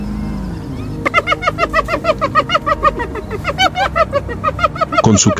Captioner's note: laughter